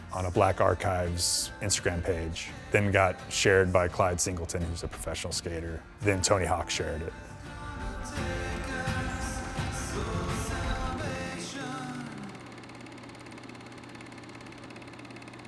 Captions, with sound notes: on a Black Archives Instagram page, then got shared by Clyde Singleton who's a professional skater. Then Tony Hawk shared it. [upbeat music continues] [reel clacking]